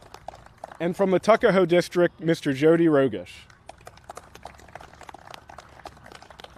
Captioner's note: applause; applause